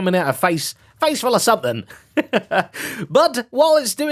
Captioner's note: laughs